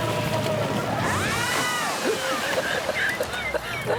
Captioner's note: women screaming; laughing